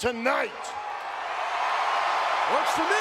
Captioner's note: crowd cheering